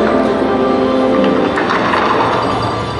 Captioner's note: SFX effects